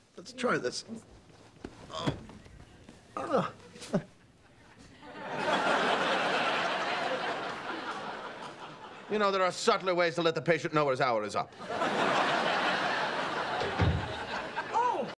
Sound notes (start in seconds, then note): 3.1 chuckles; 13.5 door closing